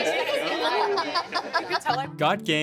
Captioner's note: laughing